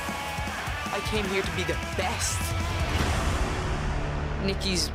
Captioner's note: none